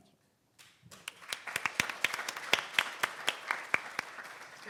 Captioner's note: audience applauding